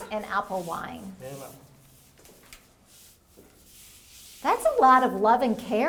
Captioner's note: brush whooshing